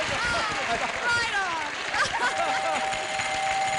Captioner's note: bells dinging